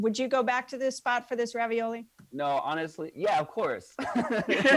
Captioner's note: laughs